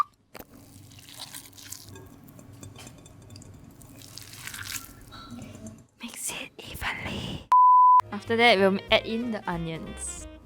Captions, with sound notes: *gross squishing sounds* *attempted clinking sounds* Mix it evenly... After that, we'll add in the onions.